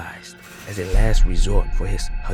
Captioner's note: prison door